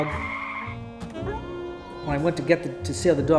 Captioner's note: tires squealing; dog howls